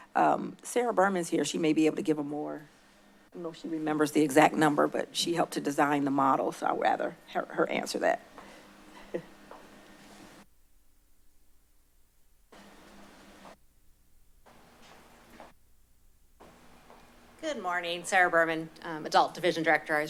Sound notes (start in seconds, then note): 8.9 chuckle; 10.1 silence